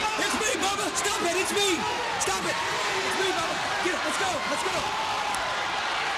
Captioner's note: crowd cheering